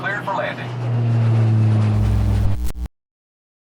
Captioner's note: distant plane